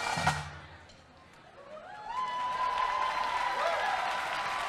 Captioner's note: applause and cheering